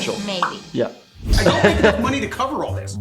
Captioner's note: laughing